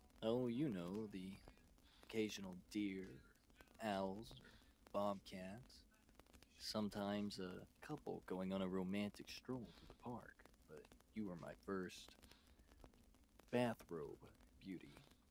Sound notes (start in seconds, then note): none